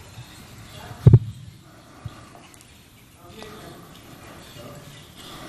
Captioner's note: participants chatting